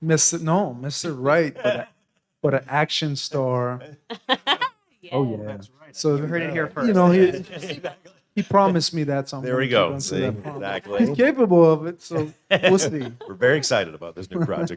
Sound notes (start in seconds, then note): 4.0 laughs